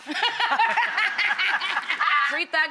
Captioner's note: laughs